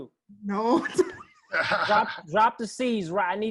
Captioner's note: laugh